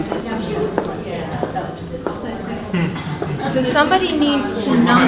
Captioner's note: participants talking at once